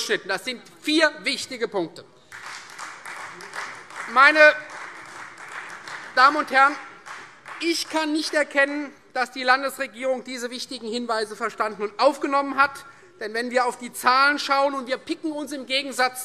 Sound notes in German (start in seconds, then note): 2.2 Beifall Freie Demokraten